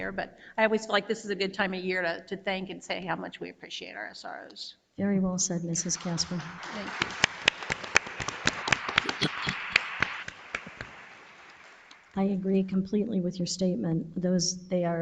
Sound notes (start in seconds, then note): 8.4 audience applauds